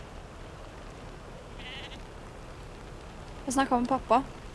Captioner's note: sheep bleating in the background